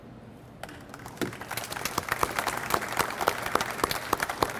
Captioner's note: audience applauds